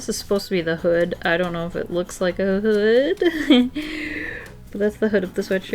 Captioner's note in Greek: Νευρικό γέλιο